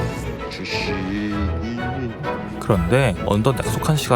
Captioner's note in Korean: 흥얼흥얼